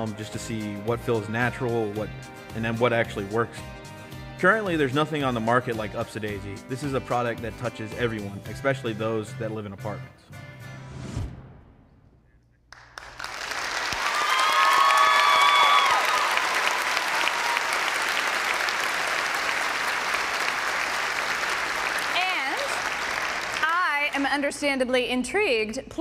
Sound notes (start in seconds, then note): 12.7 applause